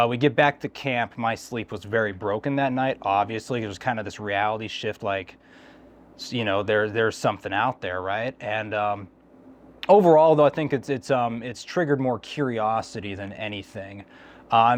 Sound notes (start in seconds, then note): none